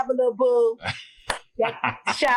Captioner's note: claps; laughs